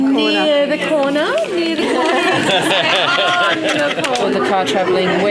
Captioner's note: participant chatter